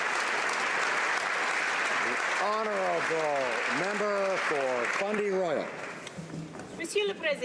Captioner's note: applause